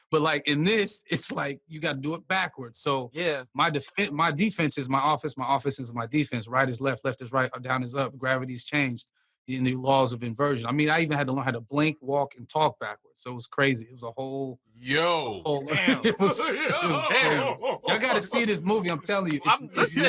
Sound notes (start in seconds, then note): 15.7 laughter